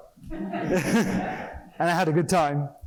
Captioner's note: laughter